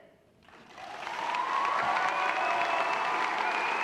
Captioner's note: applause